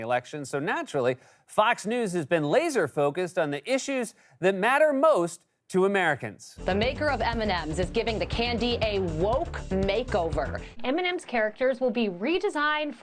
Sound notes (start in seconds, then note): none